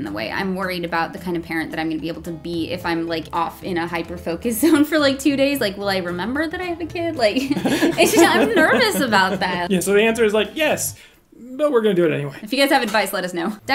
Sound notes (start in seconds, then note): 7.3 laughing